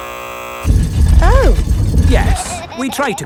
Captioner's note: buzzer sounds